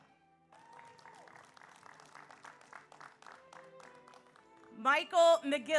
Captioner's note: audience applauds; audience cheers